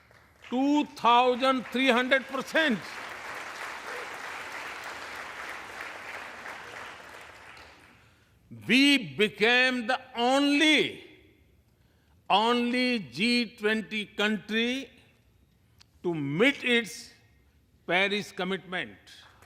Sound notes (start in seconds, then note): 7.9 applause